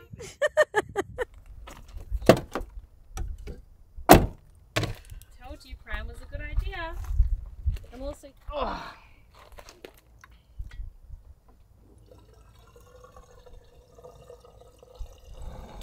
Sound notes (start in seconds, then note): 0.0 laughing; 8.6 grunting; 11.8 diesel trickling